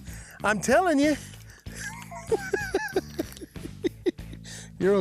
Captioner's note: laughs